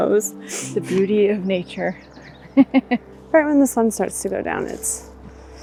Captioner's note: laughter